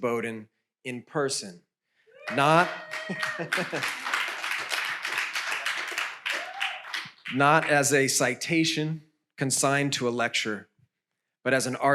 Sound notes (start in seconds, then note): 2.2 audience applauds